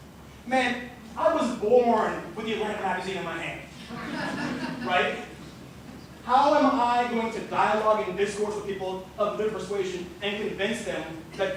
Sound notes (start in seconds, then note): 3.8 laughter